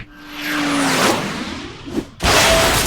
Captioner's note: loud crash